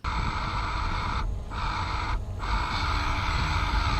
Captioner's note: engine revving